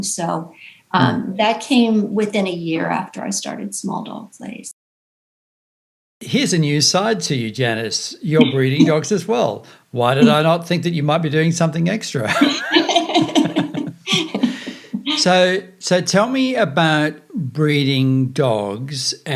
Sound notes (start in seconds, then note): 6.2 chuckles; 12.2 laughs